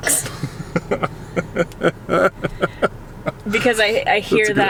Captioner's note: laughing